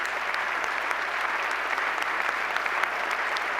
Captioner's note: applause